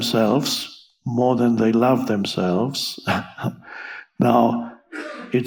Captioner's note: laughs